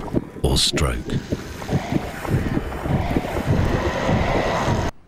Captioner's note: heartbeat, static noises